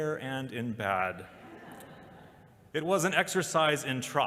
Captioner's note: laughter